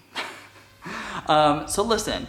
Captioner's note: laughs